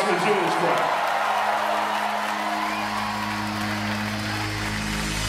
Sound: audience applauds

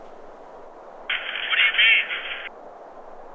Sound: two-way radio

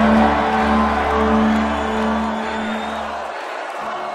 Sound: crowd

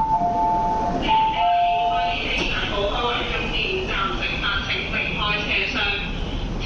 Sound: Cantonese

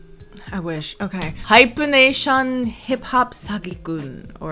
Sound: speaking Korean

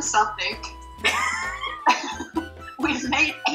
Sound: laughing

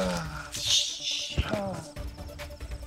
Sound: Kohli grunts

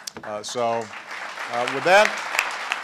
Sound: applause

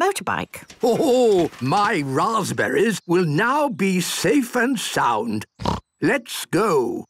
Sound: snort

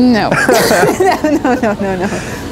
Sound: both laughing

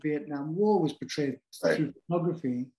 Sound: mic buzzes

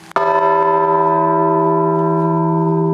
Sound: bell rings

